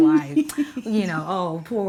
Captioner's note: Denise laughs